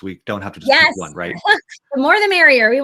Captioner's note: chuckles